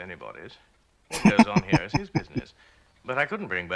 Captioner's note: chuckling